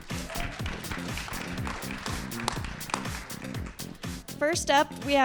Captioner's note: audience cheers and applauds